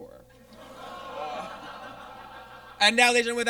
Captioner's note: audience groans